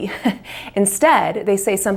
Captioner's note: laughing